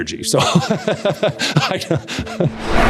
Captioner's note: laughter